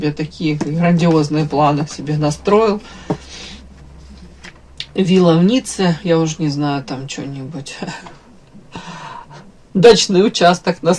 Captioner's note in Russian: фыркает